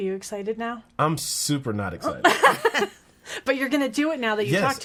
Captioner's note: laughing